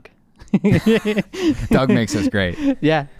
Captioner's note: laughing